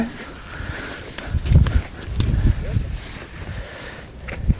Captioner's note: wind whooshing